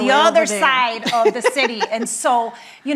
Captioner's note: laughing